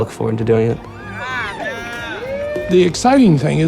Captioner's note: cheering